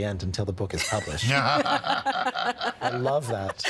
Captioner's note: both laughing